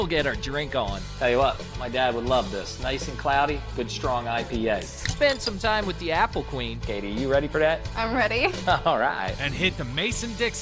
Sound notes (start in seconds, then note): 4.7 can opening; 8.3 laughs